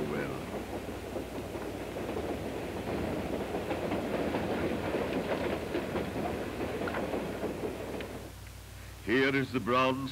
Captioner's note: train rumbling on tracks